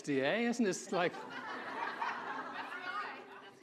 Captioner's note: audience laughing